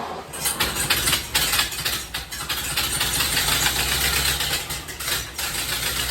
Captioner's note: engine cranking; engine sputters; engine running